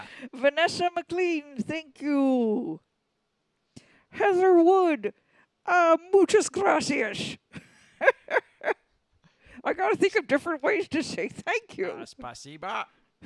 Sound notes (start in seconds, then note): 8.0 Leia cackles